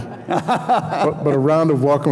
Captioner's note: audience laughing